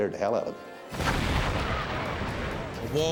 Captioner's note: fire booming